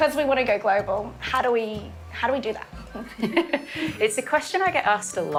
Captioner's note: laughing